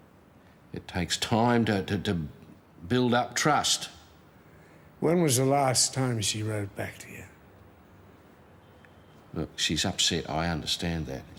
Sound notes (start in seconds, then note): none